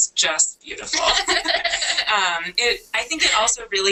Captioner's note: laughter